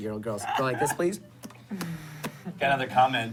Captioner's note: smacking